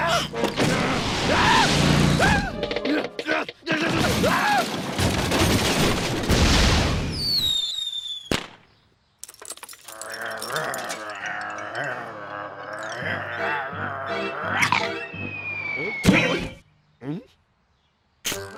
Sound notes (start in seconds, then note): 2.8 grunting; 4.6 shrieks; 7.0 whistles and pops; 10.0 growling